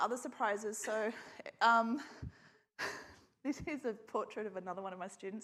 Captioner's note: laughs